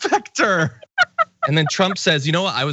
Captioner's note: laugh